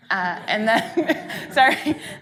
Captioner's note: audience laughing